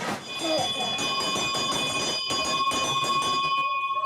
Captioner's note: bell rings